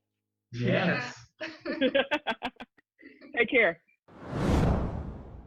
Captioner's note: laughs